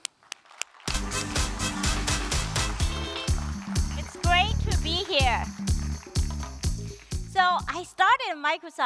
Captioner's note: applause